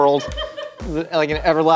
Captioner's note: woman laughing